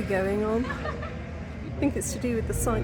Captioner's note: background laughter